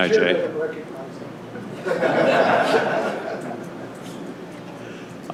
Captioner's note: laughter